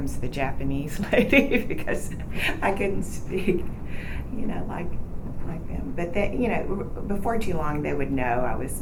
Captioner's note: laughs